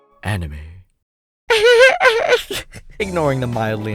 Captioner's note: laughs